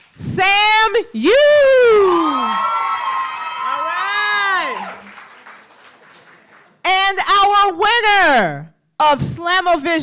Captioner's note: applause